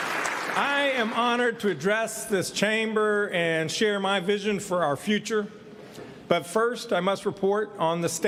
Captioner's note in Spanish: aplausos